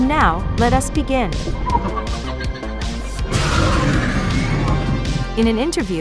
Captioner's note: demogorgon cheers